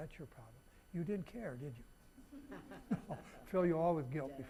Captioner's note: audience chuckling